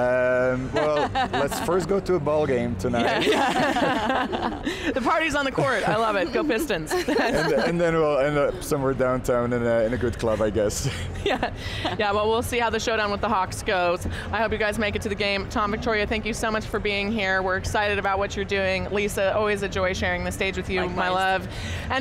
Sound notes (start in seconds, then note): 3.0 all laugh